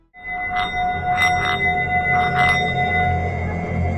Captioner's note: metal ringing